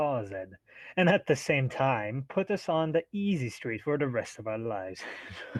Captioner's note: chuckles